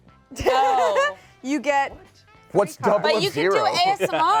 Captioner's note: laughs